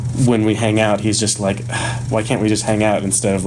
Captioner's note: sighs